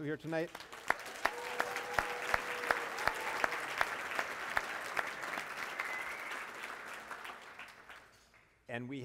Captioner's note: applause